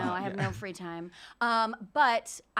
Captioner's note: giggles